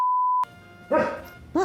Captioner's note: woof!